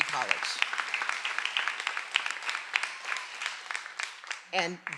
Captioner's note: everyone applauding